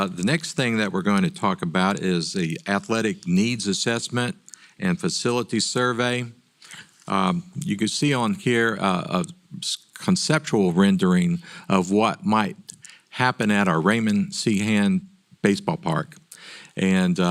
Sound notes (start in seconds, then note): none